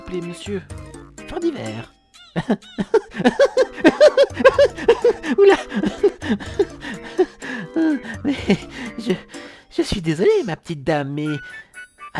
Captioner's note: laughs